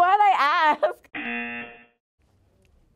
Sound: buzzer

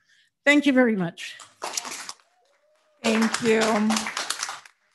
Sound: audience applauding

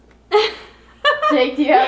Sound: laughs

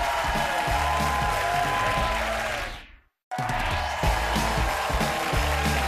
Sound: audience applause and cheers

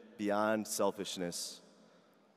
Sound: none

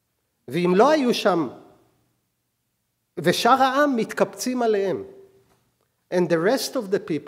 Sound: speaking hebrew

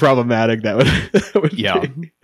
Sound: laughing

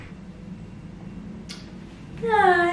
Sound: kiss

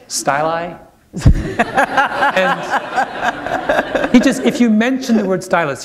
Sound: laughter

